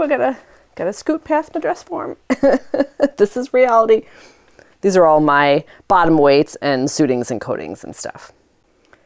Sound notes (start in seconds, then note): 2.3 laughs